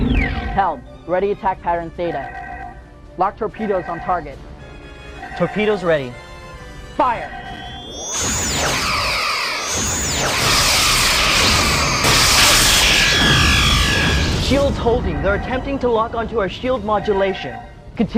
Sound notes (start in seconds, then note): 13.8 explosion